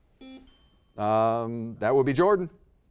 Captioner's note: buzzer beeping; bell ringing